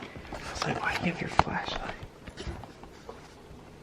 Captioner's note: whispering